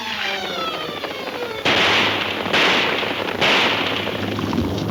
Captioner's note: guns firing